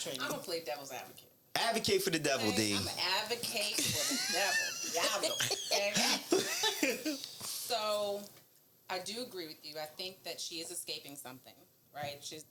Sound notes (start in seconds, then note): 5.7 laughing